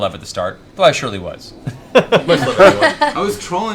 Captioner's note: laughter